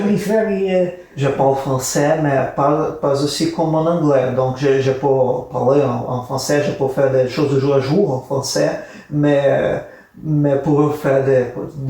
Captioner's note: speaking in French